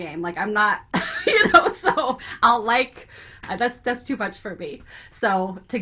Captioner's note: laughs